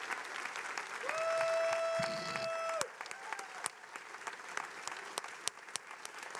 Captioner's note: attendees applauding